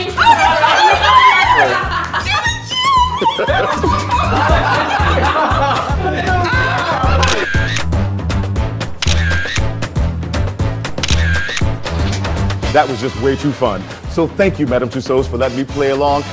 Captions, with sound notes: -Oh, my God! -Ahh! You're the Genie! [laughing] [camera shutter] [camera shutter] [camera shutter] That was just way too fun. So thank you, Madame Tussauds for letting me play along,